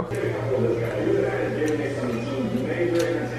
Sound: TV playing

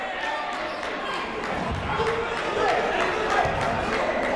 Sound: shouting

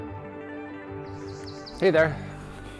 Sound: birds chirping

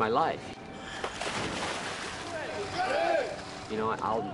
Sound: splash

